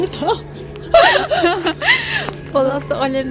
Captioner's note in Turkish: gülüşmeler